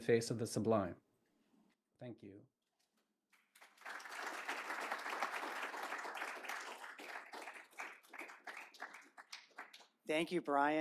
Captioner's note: applause